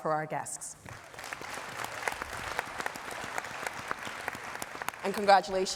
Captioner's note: all applauding